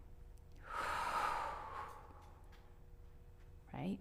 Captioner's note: inhales/exhales